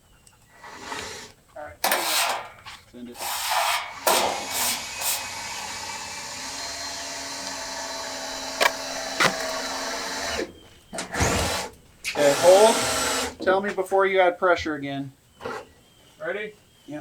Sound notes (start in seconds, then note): 5.2 drilling